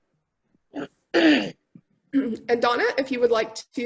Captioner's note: clears throat